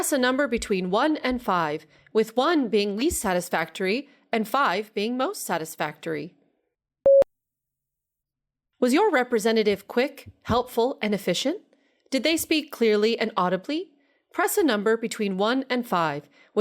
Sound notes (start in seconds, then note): 7.0 beep